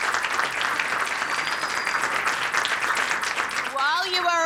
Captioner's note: audience applauding; person whistling